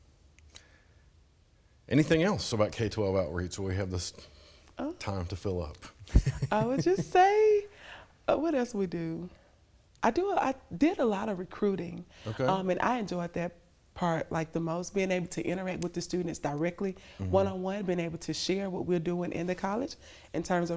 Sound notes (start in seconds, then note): 6.0 laughter